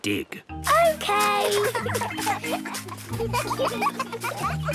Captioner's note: giggling